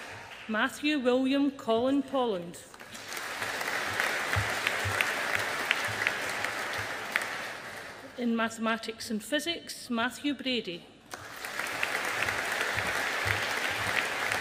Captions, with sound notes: Matthew William Colin Polland. (AUDIENCE APPLAUDING) In Mathematics and Physics, Matthew Brady. (AUDIENCE APPLAUDING)